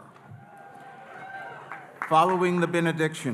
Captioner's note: audience cheering